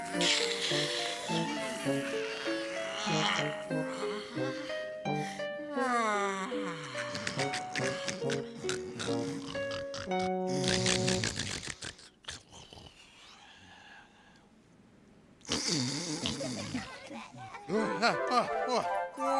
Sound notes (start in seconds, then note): 0.1 yawning; 10.4 snoring; 16.2 cats chattering